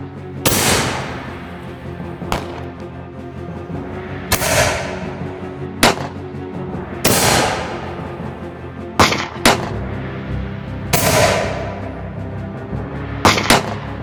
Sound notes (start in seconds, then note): 2.7 intense music continues; 7.0 gunshot cracking continues